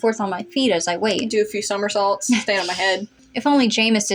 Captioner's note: chuckle